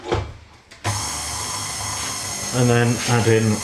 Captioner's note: machine chugging